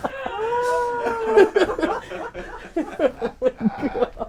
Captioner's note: people laughing